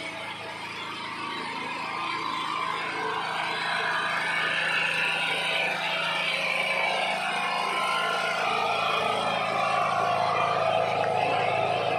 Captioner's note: applause hand